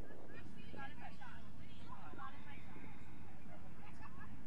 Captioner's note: crowd chattering